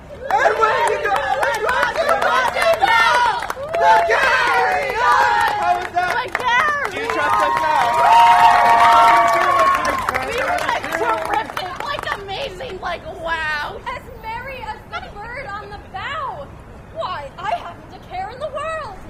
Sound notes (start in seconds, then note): 0.0 audience keeps singing; 8.6 audience applause